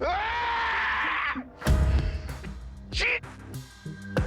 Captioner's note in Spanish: Grito